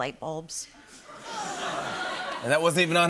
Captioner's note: laughter and awws